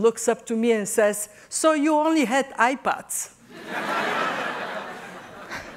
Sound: laughter

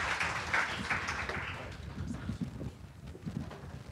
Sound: applause

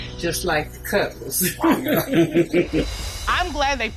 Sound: both laugh

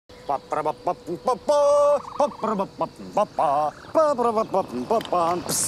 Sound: man vocalizing

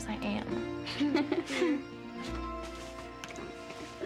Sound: all giggling

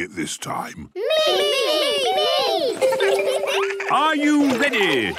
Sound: laughter

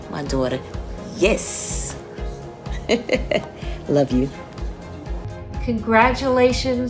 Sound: laugh

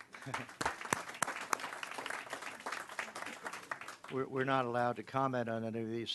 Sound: applause

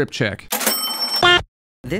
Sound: ka-ching

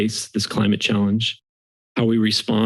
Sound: silence

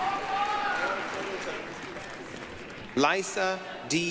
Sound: applause, cheering

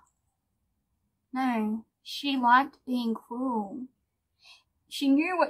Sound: drops accent

